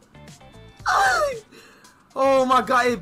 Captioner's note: Speedy screaming